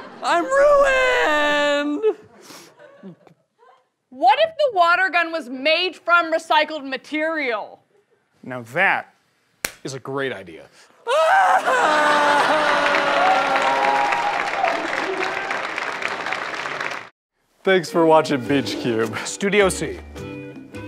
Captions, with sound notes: I'm ruiiined! [sniffling] - What if the water gun was made from recycled material? - Now that is a great idea. - [wailing] [audience clapping] Thanks for watching Beach Cube. - Studio C.